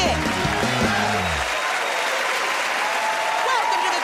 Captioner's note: cheers and applause